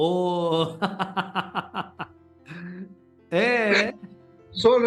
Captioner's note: laugh